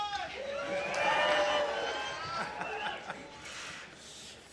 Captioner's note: audience cheering